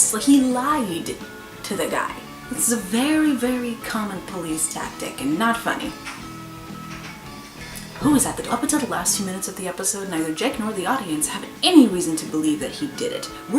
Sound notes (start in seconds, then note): 6.4 front door opens